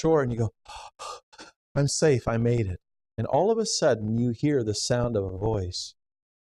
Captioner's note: gasps